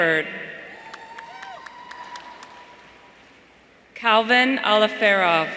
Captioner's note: audience cheering